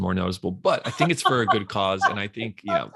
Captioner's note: laughs